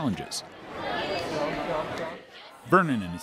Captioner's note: crowd chattering